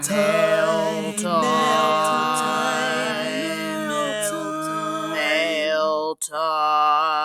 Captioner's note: multiple male voices